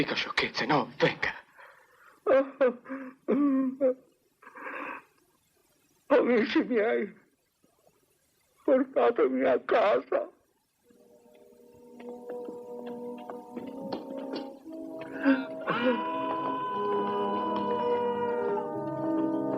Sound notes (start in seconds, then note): 5.5 sobbing; 15.5 man yells